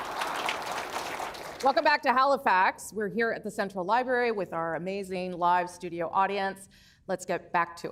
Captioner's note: applause